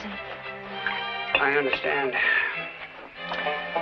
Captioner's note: sighs